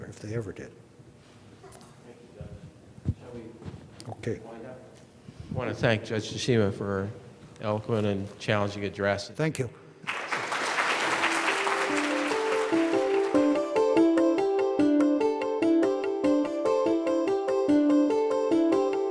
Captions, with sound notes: if they ever did. - Thank you judge, shall we... - Okay, - Wind up? - I wanna thank Judge Tashima eloquent and challenging address. - Thank you. (audience clapping) (upbeat music)